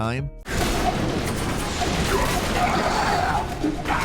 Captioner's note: guns firing